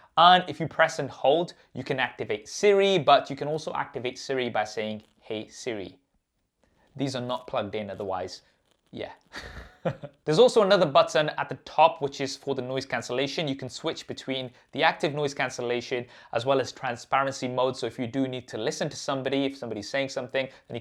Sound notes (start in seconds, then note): 9.3 laughing